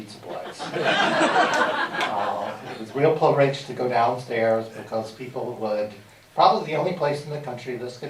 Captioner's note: laughter